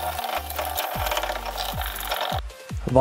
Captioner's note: grinding